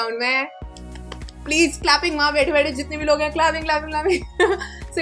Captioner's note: claps